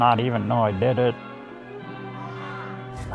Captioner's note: man shouting